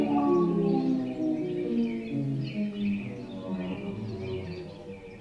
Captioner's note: birds chirping